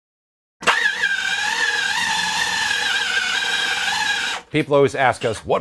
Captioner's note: machine whirs